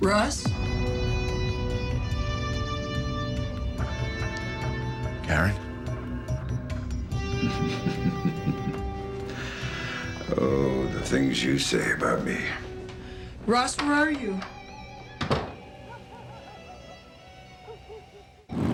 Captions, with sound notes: - Ross? (dramatic music continues) - Karen? - Oh, the things you say about me. - Ross, where are you? (door thuds)